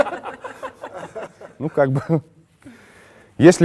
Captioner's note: laugh